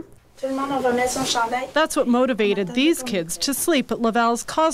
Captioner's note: speaking in French